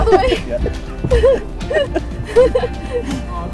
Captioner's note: all laughing